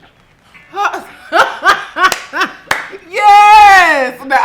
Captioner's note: laughs